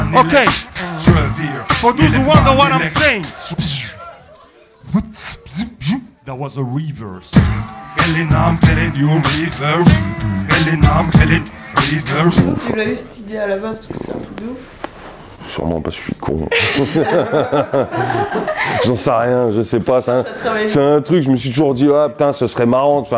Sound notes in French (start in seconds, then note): 16.4 rires